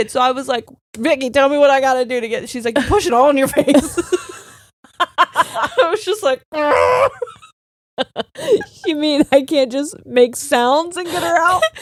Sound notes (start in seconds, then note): 4.8 both laughing; 6.6 groaning; 8.0 both laughing